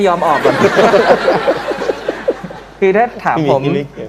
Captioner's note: laughing